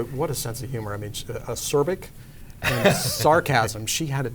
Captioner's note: laughs